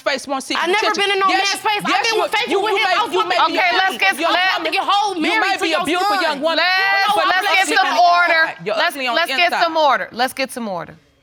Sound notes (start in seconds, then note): 3.2 both arguing; 4.5 arguing continues